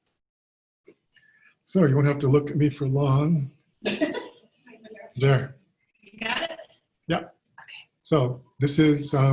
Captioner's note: laugh